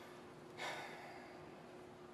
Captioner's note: Cave sighs